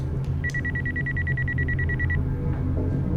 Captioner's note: phone ringing